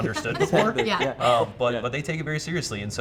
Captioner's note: everyone laughing